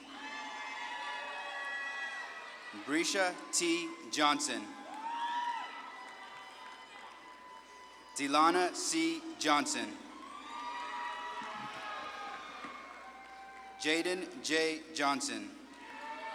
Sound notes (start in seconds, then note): 0.2 audience claps and cheers; 5.2 audience claps and cheers; 10.6 audience claps and cheers